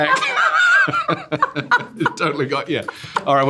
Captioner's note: both laughing